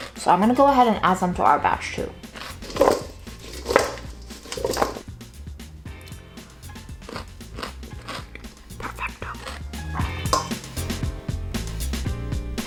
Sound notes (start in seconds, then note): 2.2 cucumbers rattling; 10.0 lively music